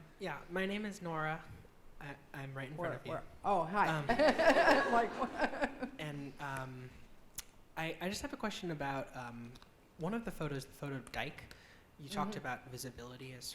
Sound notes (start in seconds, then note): 4.0 laughing